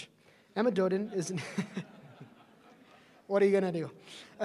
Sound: laughter

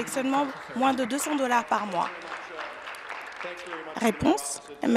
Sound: applause

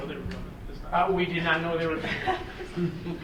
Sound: people laughing; laughs

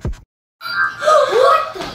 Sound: chime; kids gasp

